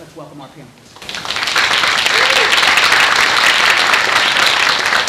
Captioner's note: applauding